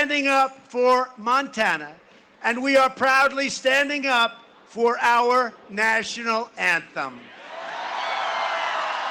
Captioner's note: cheering and applause